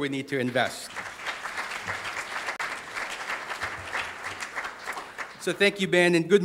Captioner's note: audience applauding